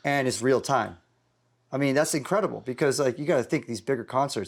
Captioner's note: none